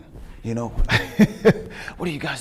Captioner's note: chuckling